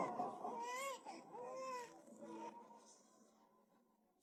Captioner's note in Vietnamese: khóc